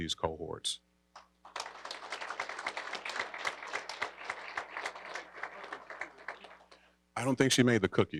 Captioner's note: applause